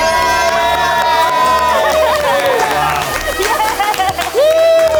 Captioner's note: all cheering; triumphant music